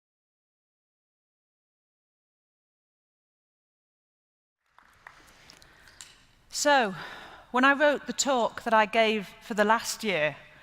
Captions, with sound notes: [APPLAUSE] So, when I wrote the talk that I gave for the last year